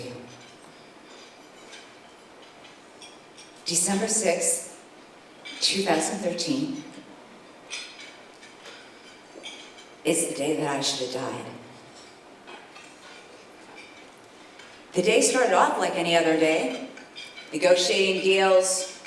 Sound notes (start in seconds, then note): none